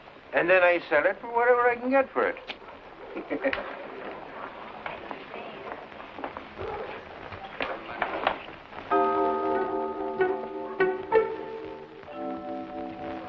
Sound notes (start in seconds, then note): 3.0 chuckles; 8.7 suspenseful music